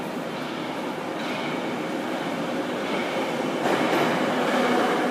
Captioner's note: arrival of train at the station